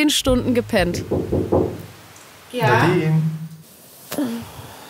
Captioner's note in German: Klopfen